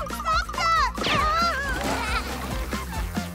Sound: laughing

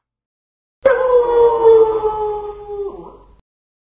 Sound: wolf howling

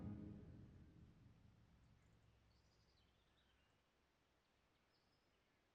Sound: birds chirping

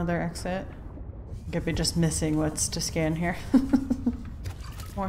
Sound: laughs

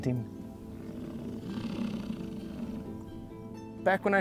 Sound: bison grunts

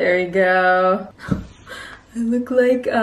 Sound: gasps

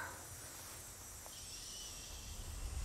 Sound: shushing

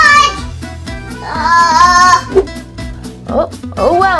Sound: assistant groans

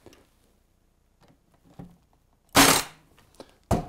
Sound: staple gun

